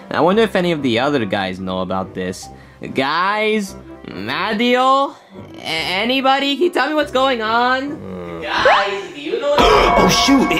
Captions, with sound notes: I wonder if any of the other guys know about this? Guys? Mario? Anybody, can you tell me what's going on? Guys. (Mario gasps) Do you know what's going on?